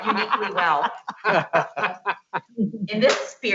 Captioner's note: laughs